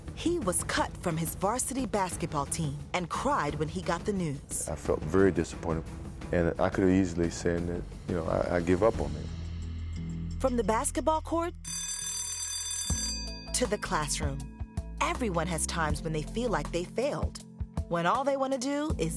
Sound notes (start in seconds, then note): 11.6 school bell rings